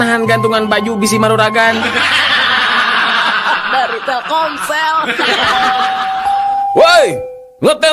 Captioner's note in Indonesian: tertawa